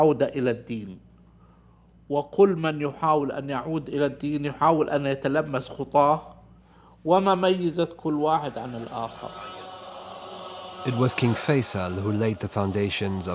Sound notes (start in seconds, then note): 0.2 speaking in Arabic